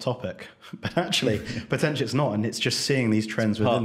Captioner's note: chuckles